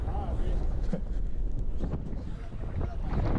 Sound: wind howling

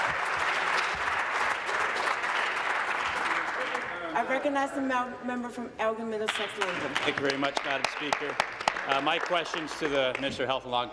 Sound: applause

